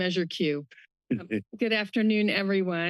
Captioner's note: laughing